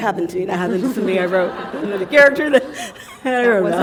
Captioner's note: chuckle